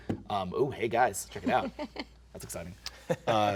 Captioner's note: laughs